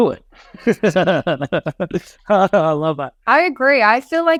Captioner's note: laughs